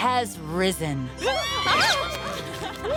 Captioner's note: shrieks